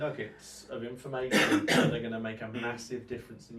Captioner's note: coughs